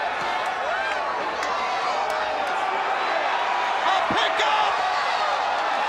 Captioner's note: crowd cheering